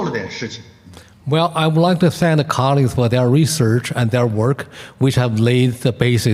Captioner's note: translating in Mandarin